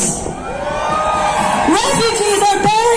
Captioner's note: crowd cheering in agreement